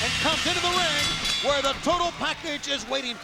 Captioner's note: bell rings